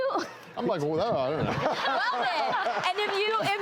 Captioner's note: laughing